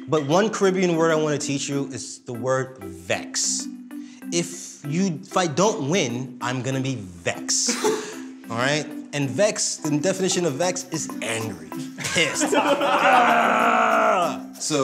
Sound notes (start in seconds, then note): 12.5 yells; 13.7 group laughs